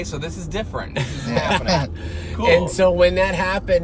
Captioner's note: laughing